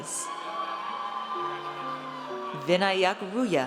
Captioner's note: audience cheers